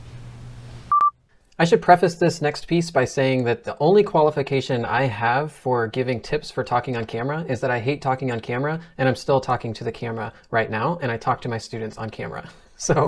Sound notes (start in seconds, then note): 0.9 short beeps